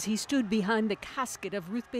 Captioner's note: crowd noise